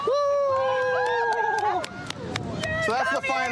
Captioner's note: cheering